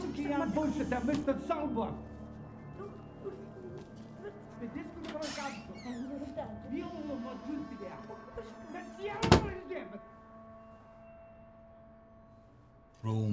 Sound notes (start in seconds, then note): 4.9 door creaks